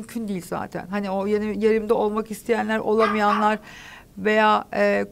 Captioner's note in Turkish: Köpek Sesi